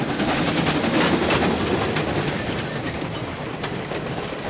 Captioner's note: train rumbling